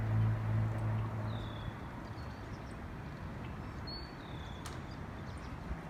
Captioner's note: dark clouds in the distance with birds still singing